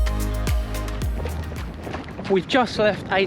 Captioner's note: gravel crunches